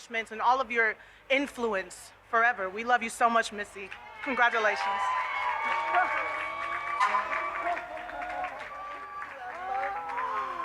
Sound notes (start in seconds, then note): 3.9 audience cheers